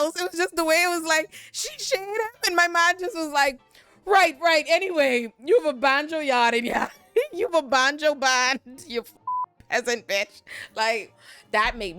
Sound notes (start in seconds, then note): 9.2 beep